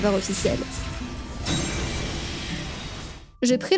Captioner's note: game sound